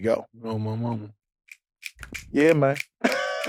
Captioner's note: fingers snapping